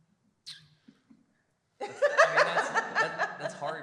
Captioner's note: laughter